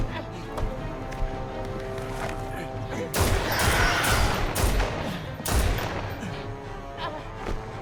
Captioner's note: dramatic music; gun fires